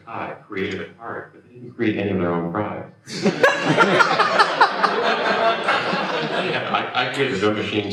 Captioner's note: laughter